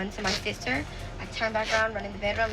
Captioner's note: velcro ripping